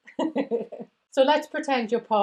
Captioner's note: giggles